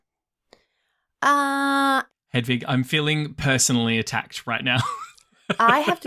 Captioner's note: laughs